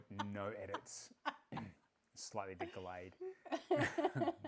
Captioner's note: laughing